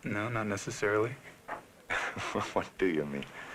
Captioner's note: laughing